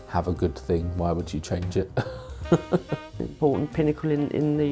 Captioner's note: laughs